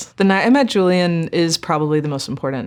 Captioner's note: none